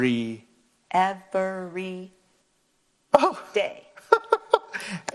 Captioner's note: laughing